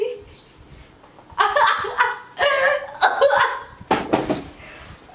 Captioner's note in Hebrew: צחוק